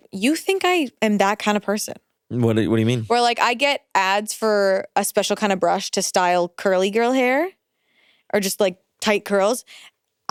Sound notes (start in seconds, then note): none